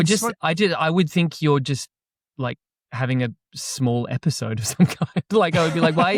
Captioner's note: laughs